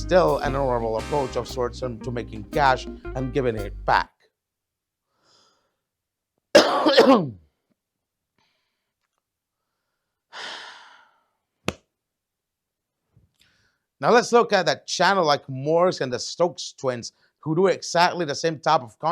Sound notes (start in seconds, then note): 5.8 claps and sighs in frustration